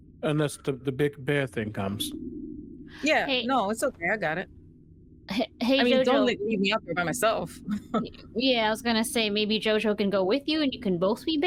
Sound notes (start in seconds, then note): 8.2 laughing